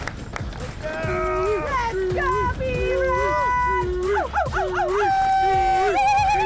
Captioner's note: cheering